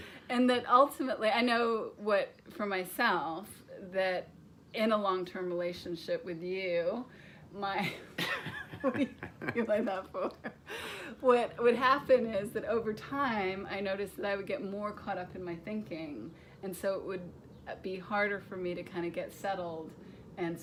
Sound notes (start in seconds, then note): 7.8 laughs